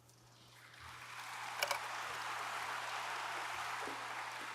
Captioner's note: audience applauds